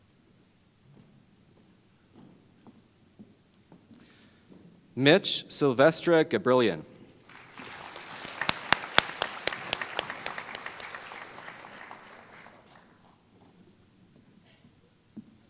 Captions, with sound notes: Mich Silvestre-Gabrielyan [Applause]